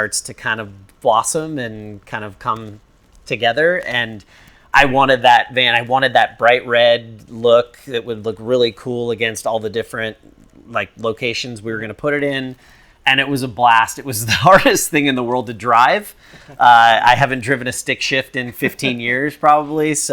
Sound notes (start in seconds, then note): 16.3 laughs; 18.4 laughs